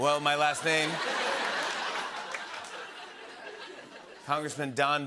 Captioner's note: laughter